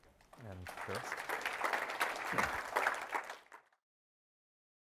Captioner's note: applause